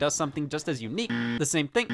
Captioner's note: buzzer buzzing